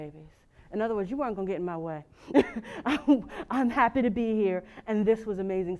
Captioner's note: laugh